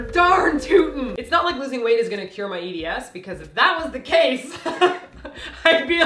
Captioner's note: laugh